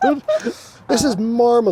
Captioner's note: laughs